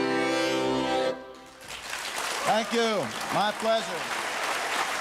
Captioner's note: applause